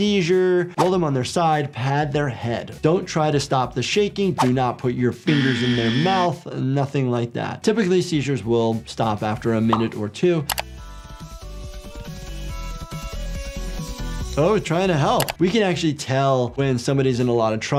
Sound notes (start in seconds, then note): 5.2 buzzer blaring; 9.9 upbeat music; 10.5 mouse clicking